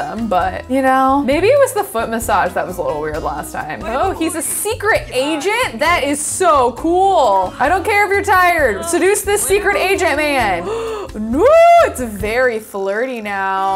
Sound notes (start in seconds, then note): 10.7 gasps